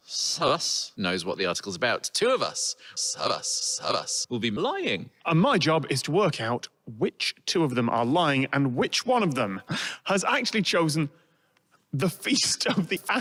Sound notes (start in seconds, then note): 9.8 sharp exhale to stifle laughter